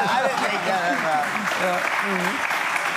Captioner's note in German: Lachen, Applaus